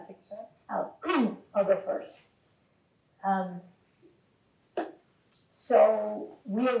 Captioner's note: clears throat